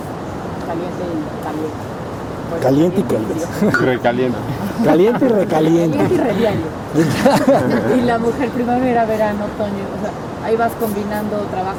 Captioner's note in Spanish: risas